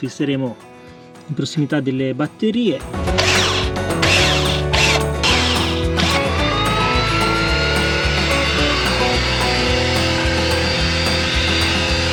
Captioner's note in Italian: Applauso